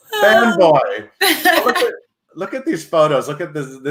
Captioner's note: laughs